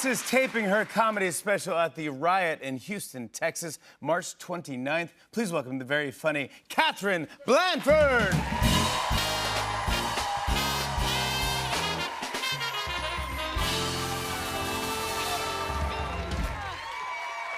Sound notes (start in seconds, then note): 8.5 cheers and applause; 17.3 cheers and applause continue